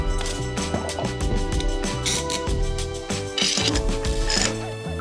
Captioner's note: clamps clicking